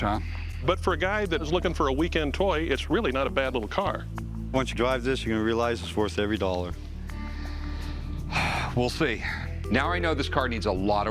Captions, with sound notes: But for a guy that is looking for a weekend toy, it's really not a bad little car. Once you drive this, you're gonna realize it's worth every dollar. [sighs] We'll see. Now I know this car needs a lot of work.